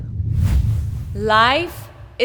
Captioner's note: air whooshes